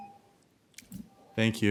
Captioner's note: tone